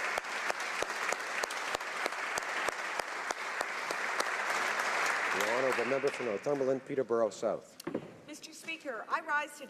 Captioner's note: applause